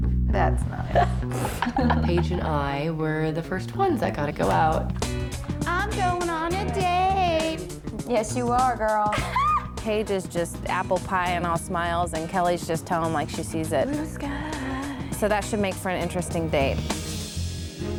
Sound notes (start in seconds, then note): 0.7 chuckling; 9.1 giggles